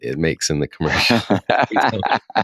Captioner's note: laughter